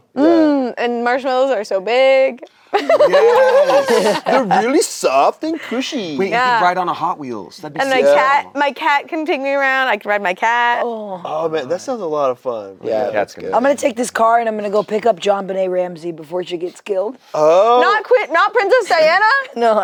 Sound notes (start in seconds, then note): 2.7 laughs